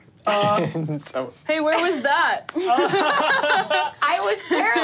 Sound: group laughing

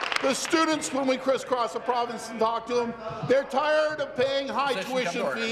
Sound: applause

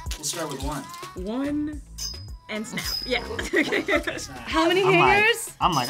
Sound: laughs

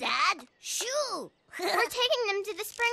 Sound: giggles

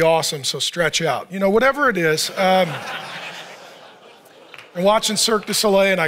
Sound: audience laughs and claps

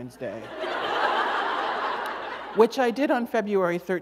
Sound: laughter

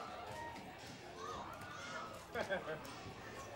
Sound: cheering

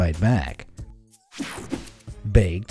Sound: image whooshing

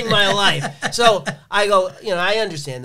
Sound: laughs

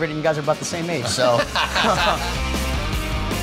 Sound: laughs

